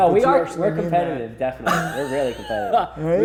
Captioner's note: laughing